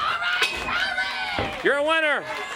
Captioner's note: bell rings